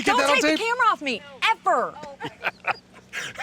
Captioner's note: laughing